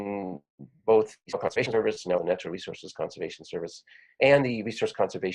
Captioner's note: audio warps